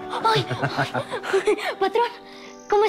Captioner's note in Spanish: Risas